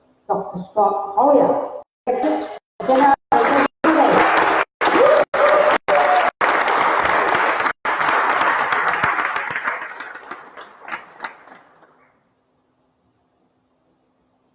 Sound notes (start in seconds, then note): 2.8 applause